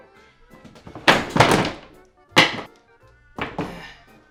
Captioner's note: clattering